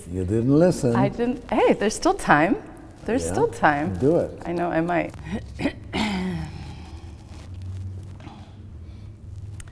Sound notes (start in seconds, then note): 5.2 clears throat